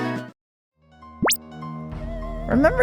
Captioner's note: bweep